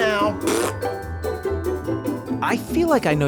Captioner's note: he blows a raspberry